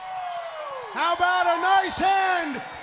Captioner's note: crowd cheering